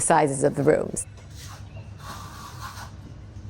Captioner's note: birds chirping